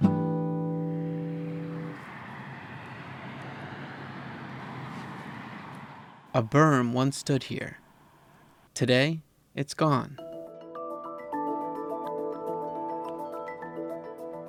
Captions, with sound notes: (guitar chord ringing) (traffic droning) A berm once stood here. Today, it's gone. (gentle pensive music)